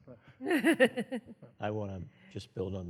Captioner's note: chuckles